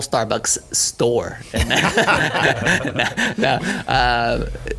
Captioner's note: laughing